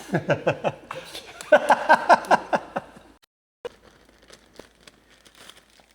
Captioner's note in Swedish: Skratt